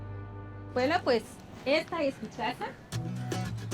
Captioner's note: speaks Spanish